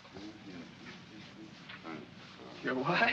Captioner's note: Shtiva mumbles in German